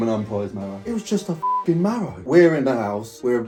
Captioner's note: beep